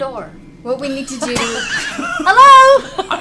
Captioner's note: laughter